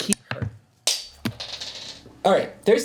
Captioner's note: dice roll